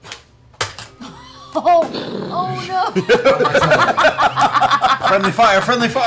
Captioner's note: laughter